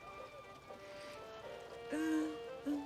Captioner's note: crying